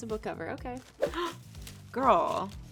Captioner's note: gasps